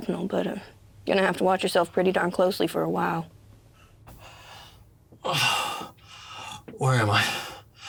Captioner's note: sighs